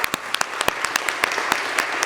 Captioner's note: applause